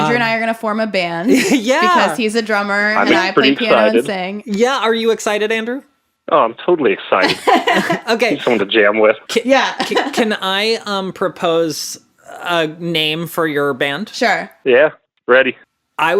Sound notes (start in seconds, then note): 7.2 laughs